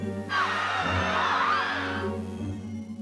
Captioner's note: screaming